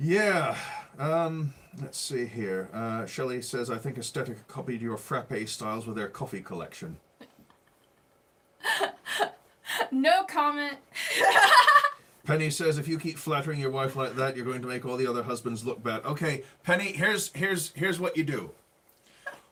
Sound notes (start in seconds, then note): 8.6 laughing